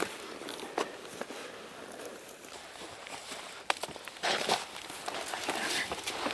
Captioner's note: footsteps in undergrowth crunching